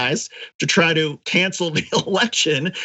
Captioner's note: laugh